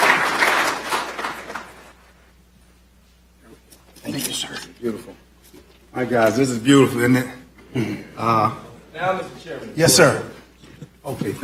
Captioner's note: applause